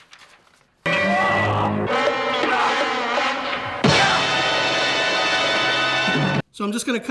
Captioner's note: scary music; screaming